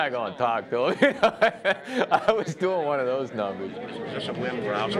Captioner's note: laughs